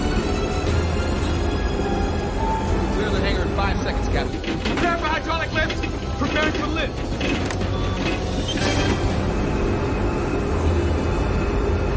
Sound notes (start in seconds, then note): 7.2 beeping